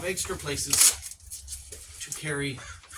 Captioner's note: velcro RIIIPP